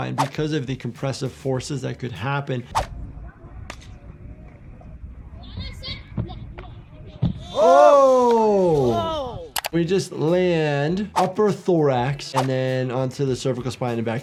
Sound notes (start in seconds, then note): 5.3 multiple people talking